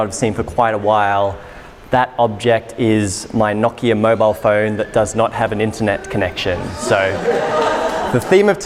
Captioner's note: audience laughter